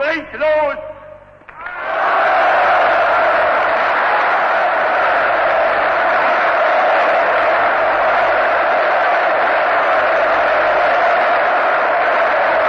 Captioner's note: applause